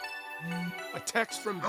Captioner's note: phone buzzes